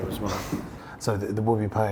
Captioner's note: sighs